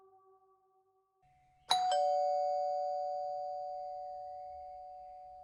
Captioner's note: ding Dong